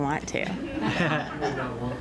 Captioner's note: laughter